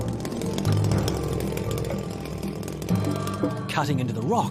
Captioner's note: chainsaw revving